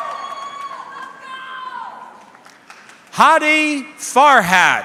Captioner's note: audience cheering; audience member shouting indistinctly